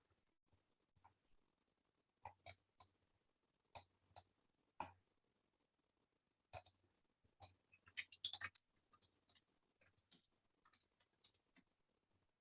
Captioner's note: mouse clicking